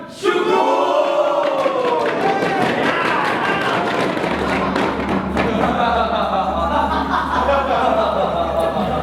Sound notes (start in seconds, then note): 3.1 animals cheer; 5.6 laughter